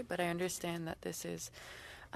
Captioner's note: speaking French